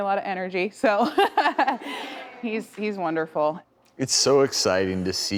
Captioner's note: laughs